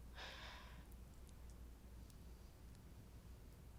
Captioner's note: Casey sighing